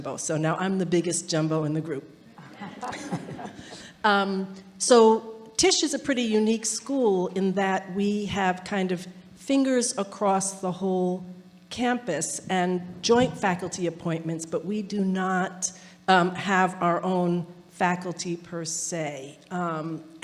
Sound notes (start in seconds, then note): 2.4 audience laughing